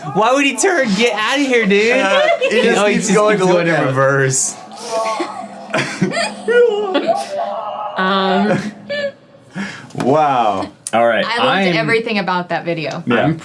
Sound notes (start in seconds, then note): 4.6 team chuckling; 5.0 police screaming